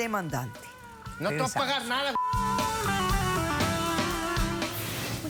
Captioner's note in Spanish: Bip